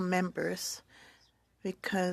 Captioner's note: speaking French